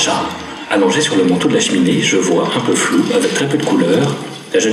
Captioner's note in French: chat qui parle